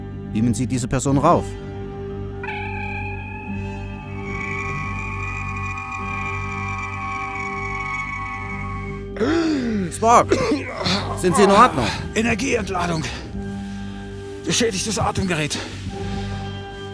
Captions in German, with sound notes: Beamen Sie dieser Person rauf! [Transportersummen] [keucht] Spock! Sind Sie in Ordnung? Energieentladung. Beschädigtes Atemgerät